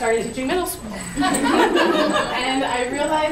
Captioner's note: group laughing